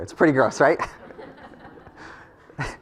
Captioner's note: laugh